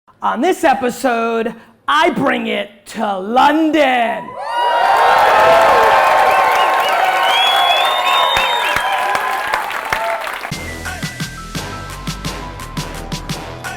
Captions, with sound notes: - On this episode, I bring it to London. (audience cheers) (upbeat hip hop music)